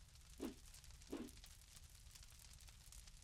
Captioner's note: logo whooshes; fire crackles softly